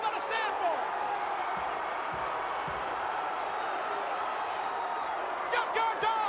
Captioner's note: crowd cheering